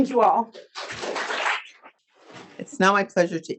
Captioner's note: audience applauding